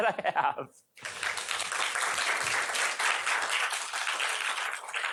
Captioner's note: applause